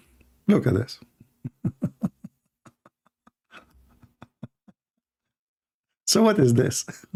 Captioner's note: Ketawa